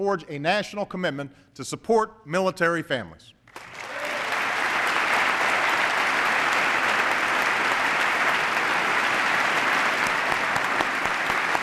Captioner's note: applause